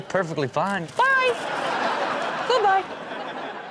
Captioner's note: crowd laughs